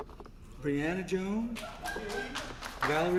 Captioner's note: applause